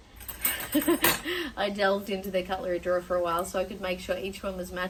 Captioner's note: chuckles